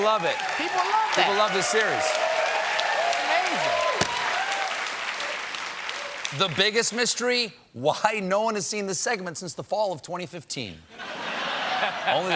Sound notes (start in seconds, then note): 6.4 applause